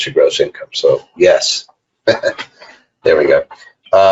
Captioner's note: laughs